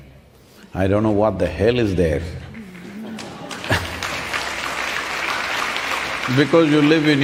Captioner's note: applause